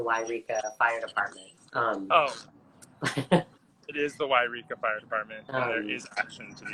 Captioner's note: laughs